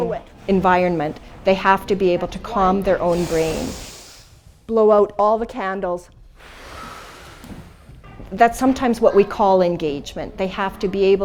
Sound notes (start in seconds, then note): 6.3 exhale